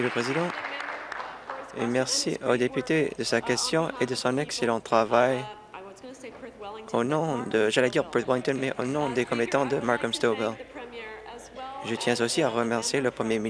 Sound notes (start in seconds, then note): 0.0 applause